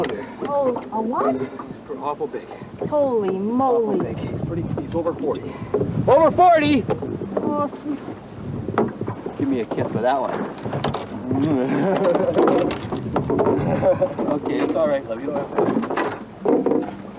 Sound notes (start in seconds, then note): 13.2 water sounds; 16.3 water sounds